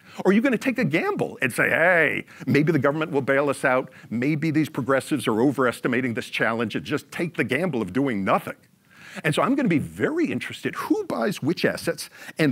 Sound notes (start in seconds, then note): none